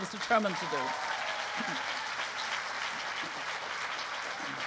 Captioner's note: applause